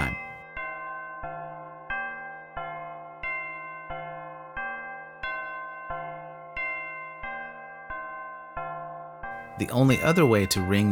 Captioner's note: bells ringing